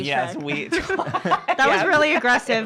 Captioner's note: laughing